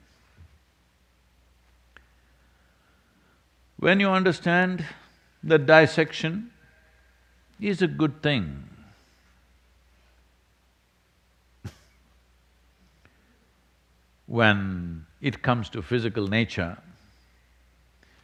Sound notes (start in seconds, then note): 11.6 laughs